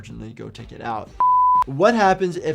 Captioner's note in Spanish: pitido en pantalla